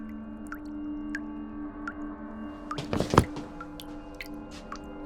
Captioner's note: faucet dripping